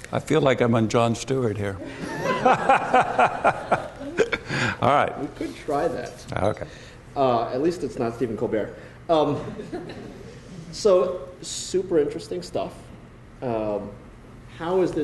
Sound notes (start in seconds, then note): 1.8 laughter